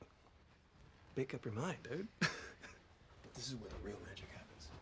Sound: laughs

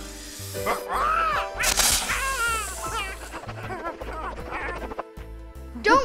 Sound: hissing; squawking

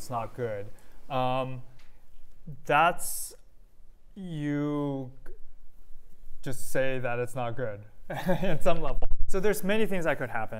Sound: laughter

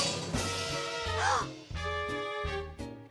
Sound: gasps

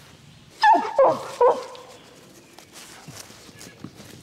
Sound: dog whines

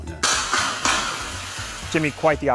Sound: comets firing

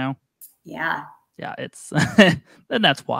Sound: laughs

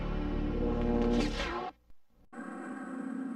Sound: mechanical sounds; dramatic sounds

